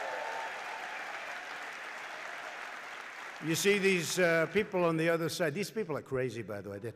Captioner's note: applause